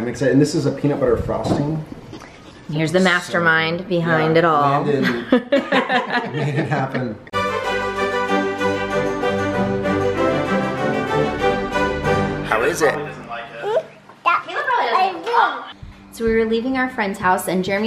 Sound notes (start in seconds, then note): 4.6 women laughing; 7.3 bright orchestral music